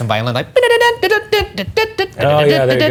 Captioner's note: imitating violin